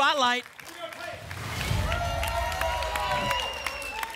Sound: applause and cheering; whoosh

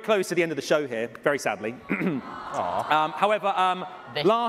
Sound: cheering

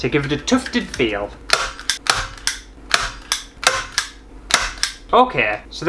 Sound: staple Sounds

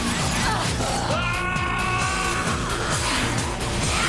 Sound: screaming

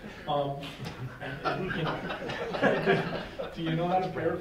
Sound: laughing

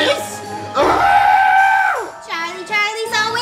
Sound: screams

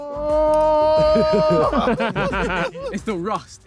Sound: all laughing

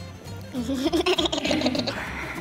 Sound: girl laughing

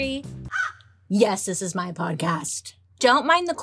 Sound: bird caws

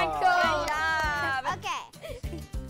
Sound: laughter

